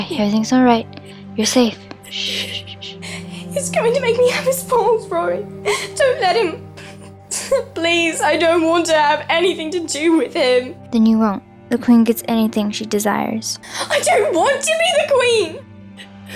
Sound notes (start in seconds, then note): 2.0 shushing